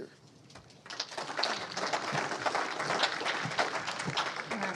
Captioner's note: audience applauds